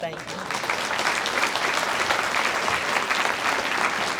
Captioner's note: audience applauds